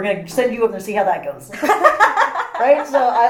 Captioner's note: all laugh